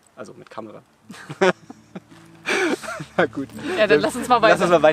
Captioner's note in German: beide lachen